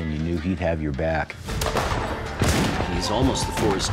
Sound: gunfire

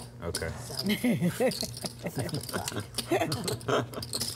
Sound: laughing

